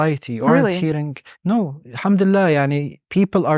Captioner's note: speaking Arabic